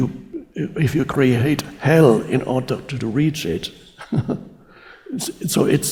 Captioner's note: chuckling